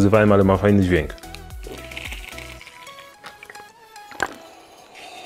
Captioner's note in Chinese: 喝水和咕噜声